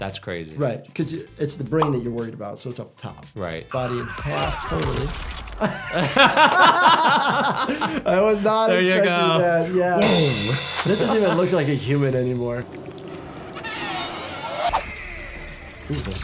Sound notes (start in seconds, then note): 5.4 both laugh; 10.0 cymbals crash